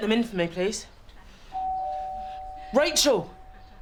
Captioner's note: doorbell chimes